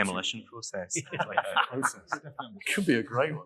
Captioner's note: laughing